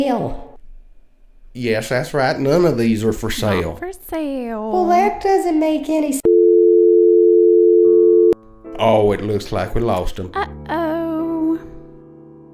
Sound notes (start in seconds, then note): 6.2 dial tone